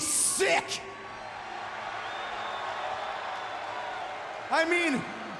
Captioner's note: crowd cheering and booing